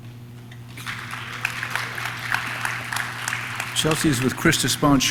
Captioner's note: audience claps